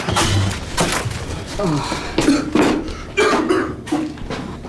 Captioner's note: Dwight coughing